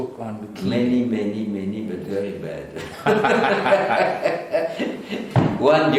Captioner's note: laughter